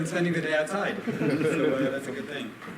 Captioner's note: laughter